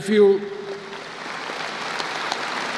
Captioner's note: applause